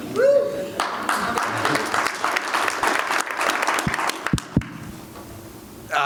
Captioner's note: applause